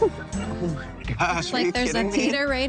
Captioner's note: laughs